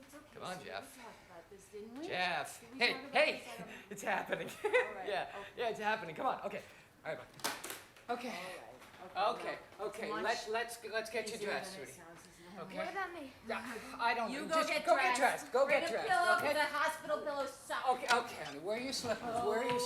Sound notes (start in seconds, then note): 4.4 laughs